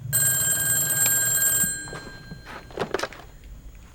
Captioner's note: phone ringing